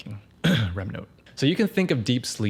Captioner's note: clears throat